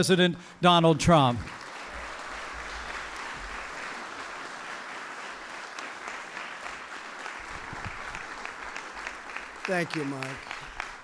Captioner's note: applause